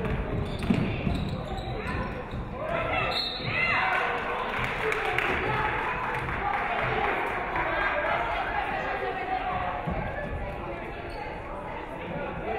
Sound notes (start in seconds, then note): 3.0 referee whistles; 3.9 audience clapping